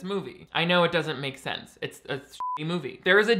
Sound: beep

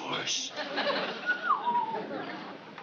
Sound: whistling

